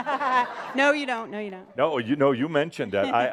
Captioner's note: laughter